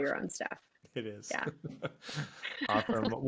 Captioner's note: laughs